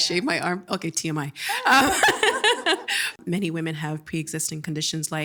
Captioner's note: laughing